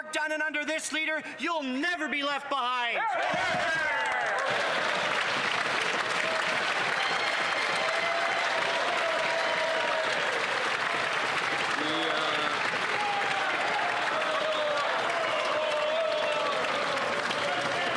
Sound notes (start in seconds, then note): 6.2 cheering and Applause